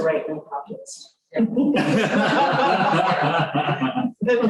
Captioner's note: laughter